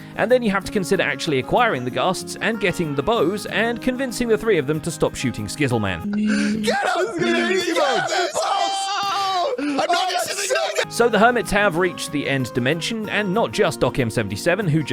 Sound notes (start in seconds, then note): 6.3 screaming; 8.9 group yelling